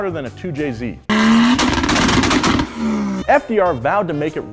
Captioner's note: car backfiring